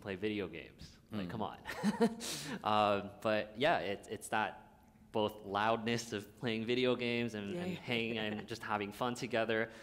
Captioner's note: laughter